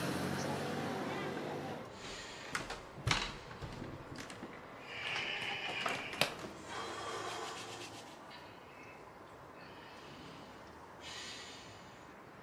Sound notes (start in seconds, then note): 4.8 Tone sighing